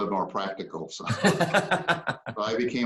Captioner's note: laughing